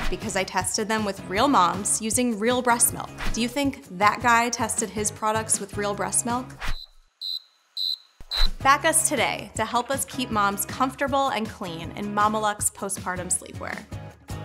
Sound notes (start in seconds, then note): 7.2 cricket chirps